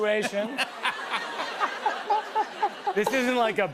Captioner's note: laughter